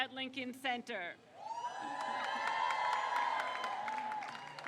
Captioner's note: crowd cheers